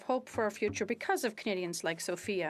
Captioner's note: speaking French